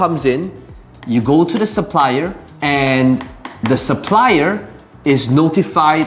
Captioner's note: tapping marker